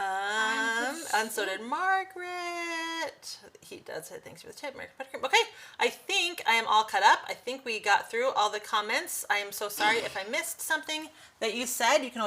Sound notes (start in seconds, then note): 3.8 speaks faintly